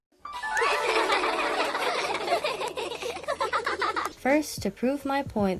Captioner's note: flirtatious laughing